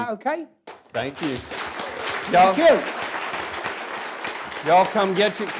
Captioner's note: applause